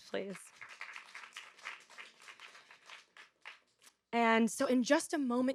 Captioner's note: audience applauding